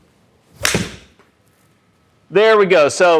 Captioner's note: club strikes ball